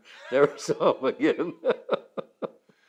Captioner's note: laughs